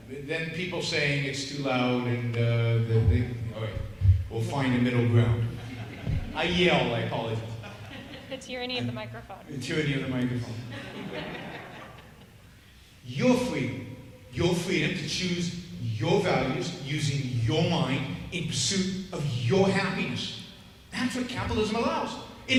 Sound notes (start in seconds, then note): 5.3 audience laughing; 10.4 audience laughing